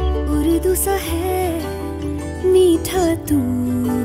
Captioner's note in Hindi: none